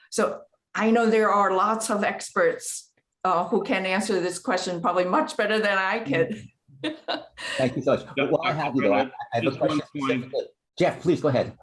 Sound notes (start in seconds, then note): 6.8 laughter